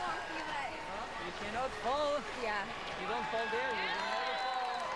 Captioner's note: cheers